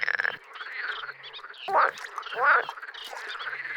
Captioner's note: frog croaks